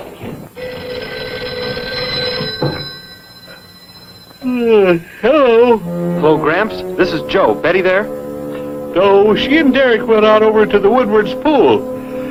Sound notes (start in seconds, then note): 2.4 car revving; 4.4 sighs; 5.7 snorting, grunting; 6.5 phone rings